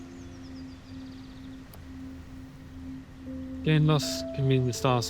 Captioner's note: birds chirping